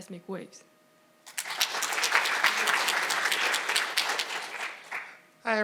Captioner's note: audience applauding